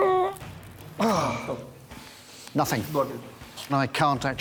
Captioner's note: he strains